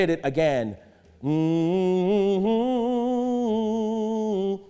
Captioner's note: humming